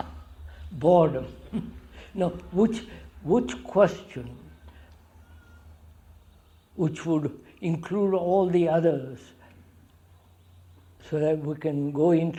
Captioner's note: laughs